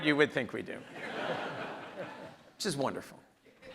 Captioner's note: audience laughs